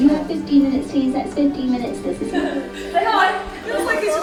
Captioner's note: over the tannoy